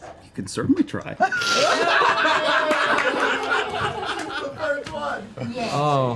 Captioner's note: laughter